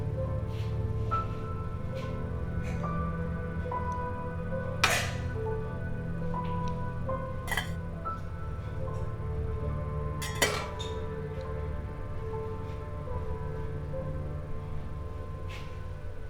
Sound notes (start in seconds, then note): 4.9 pan lids clanking; 4.9 soft orchestral music